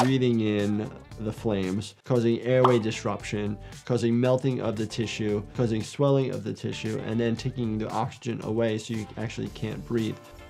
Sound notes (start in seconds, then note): 0.0 graphics swishing; 2.5 graphics popping